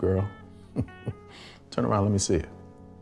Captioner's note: chuckling